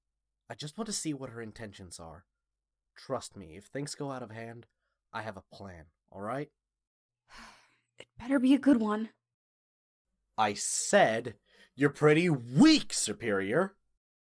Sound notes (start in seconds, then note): 7.5 sighs